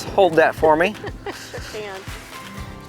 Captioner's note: laughs